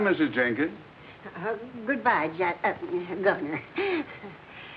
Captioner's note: stutters